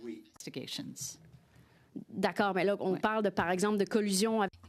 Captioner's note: speaking French